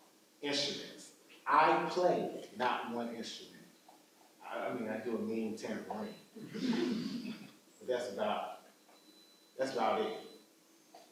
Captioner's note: audience laughs